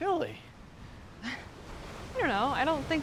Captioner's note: Fern laughs